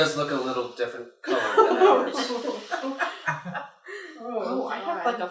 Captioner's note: laughter